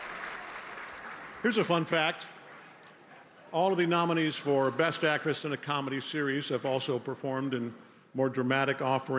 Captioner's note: cheers and applause